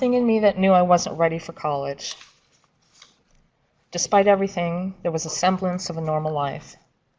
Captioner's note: paper shuffling